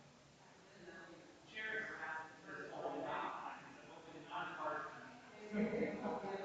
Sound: people chattering distantly continues

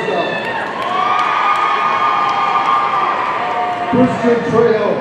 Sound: audience cheering

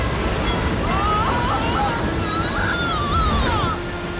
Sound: screaming

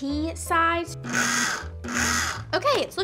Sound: blender whirring

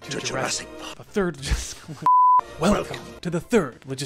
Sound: laughing

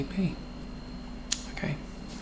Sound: lip smack

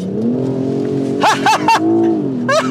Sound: laughing

